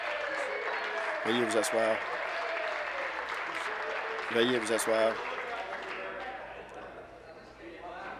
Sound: applause

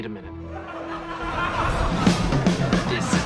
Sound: laugh track and then a parody of the Community opening plays

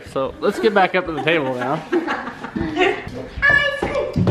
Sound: mom laughing

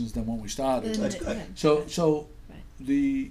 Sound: voiceover

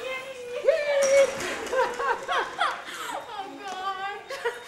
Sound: laughter

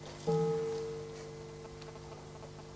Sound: bell rings

